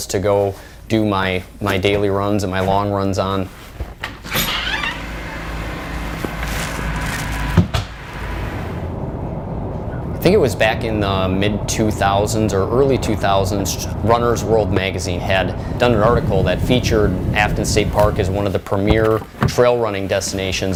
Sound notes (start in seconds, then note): 3.9 sound of door opening; 7.5 sound of door closing